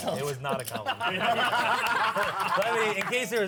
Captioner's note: laughter